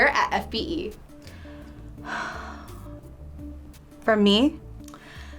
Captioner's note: sighing